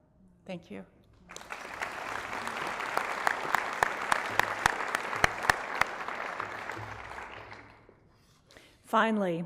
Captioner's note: applause